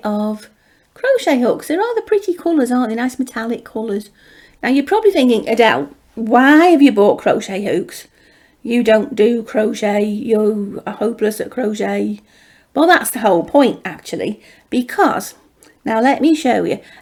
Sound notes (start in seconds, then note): none